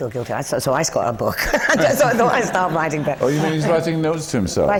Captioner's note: laughs